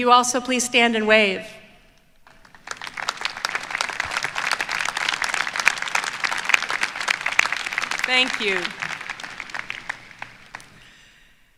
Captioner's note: applause